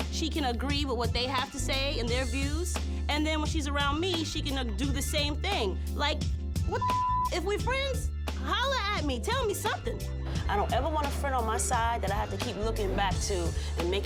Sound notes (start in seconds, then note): 6.8 beep